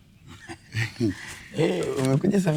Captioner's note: laughing